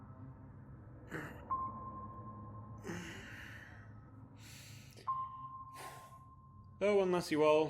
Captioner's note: stretches and sighs